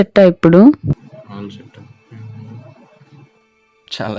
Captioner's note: murmurs